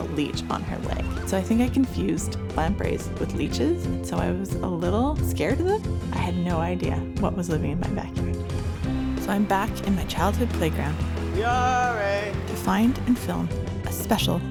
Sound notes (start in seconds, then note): 11.3 calling